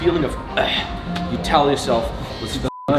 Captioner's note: sighs loudly; beep